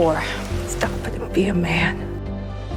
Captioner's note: voiceover